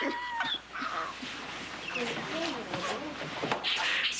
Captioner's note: fou rire